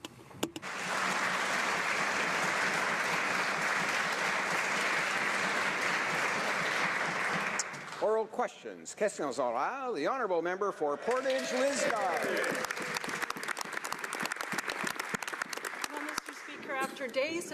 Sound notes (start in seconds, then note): 6.2 applause; 12.6 speaking French; 17.3 some Applause